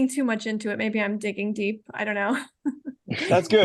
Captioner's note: laughing